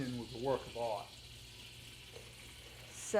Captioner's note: oil sizzling